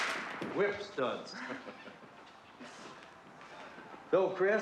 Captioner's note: chuckling